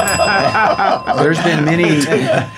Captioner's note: laughing